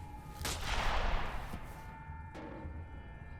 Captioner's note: gun bangs